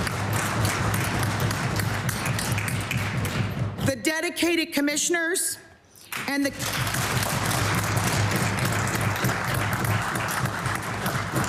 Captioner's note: applause